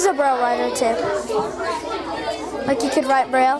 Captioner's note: students chattering